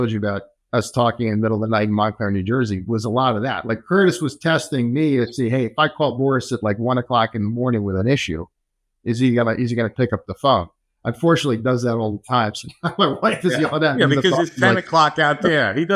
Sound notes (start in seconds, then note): 12.6 laughs